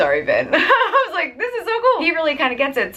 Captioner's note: laughs